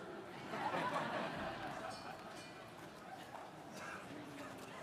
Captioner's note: audience laughing